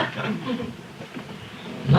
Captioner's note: laughter